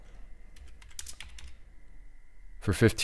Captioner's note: typing